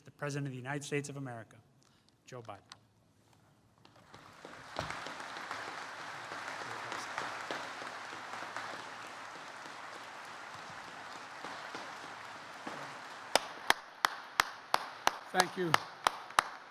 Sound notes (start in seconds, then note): 3.8 applause